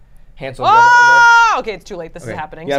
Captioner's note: screams